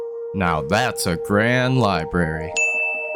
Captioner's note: ding